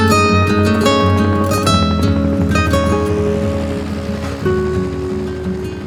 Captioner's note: helicopter rotors whirl